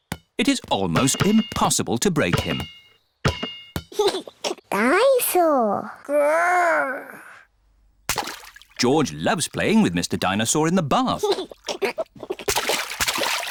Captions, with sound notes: It is almost impossible to break him. (GIGGLES) Dine-saur! Grr! George loves playing with Mr. Dinosaur in the bath. (GIGGLES)